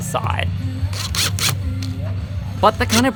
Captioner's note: drill whirring